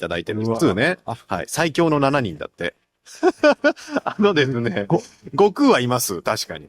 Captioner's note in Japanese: 笑い